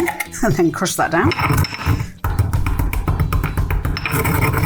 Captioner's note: stone grinding